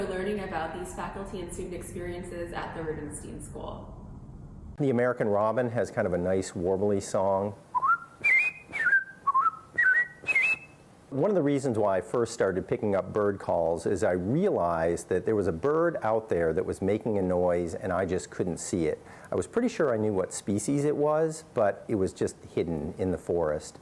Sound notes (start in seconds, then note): 7.7 whistles